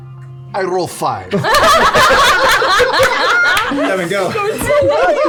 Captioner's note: laughter